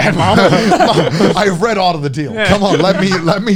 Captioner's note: laughs